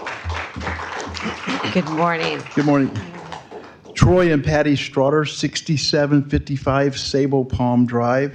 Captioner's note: applause